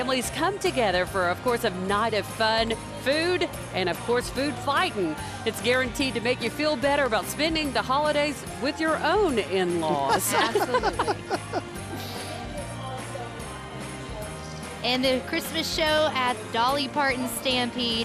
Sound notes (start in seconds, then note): 9.9 laughing; 11.5 holiday music